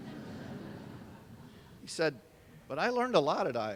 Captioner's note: laughter